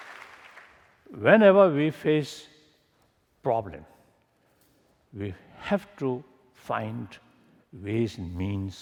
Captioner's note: applause